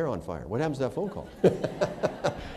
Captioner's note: laughter